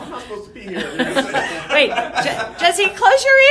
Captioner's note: laughter